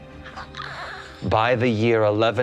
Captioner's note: gasping